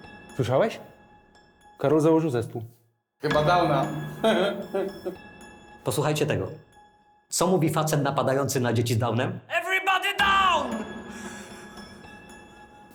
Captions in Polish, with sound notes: - Słyszałeś? Karol założył zespół. - Chyba Downa. Hy, hy! - Co mówi facet napadający na dzieci z Downem? Everybody down! [śmiech]